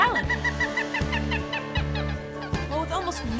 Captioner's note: bird chirping